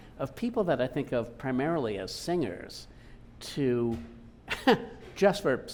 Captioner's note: laughing